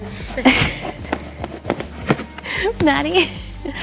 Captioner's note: laughs